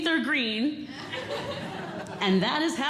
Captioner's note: audience Laughing